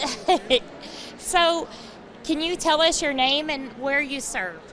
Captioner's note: laughs